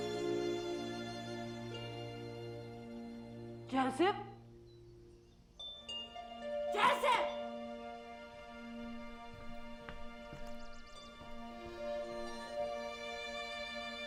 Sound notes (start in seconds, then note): 10.5 birds singing